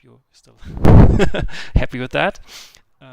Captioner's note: nervous chuckle